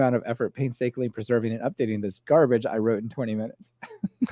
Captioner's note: laughs